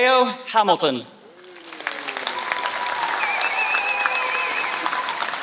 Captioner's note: applause